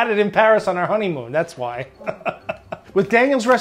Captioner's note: laughs